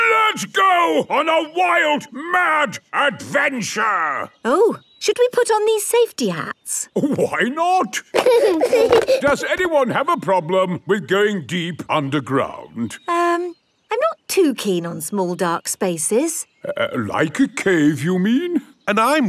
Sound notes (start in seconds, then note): 7.7 giggling